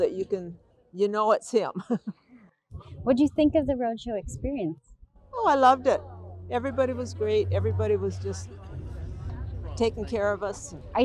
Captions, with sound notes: so that you know it's him. (laughs) - What'd you think of the "Roadshow" experience? - Oh, I loved it, everybody was great, everybody was just taking care of us, and--